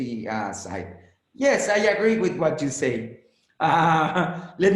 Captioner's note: laughs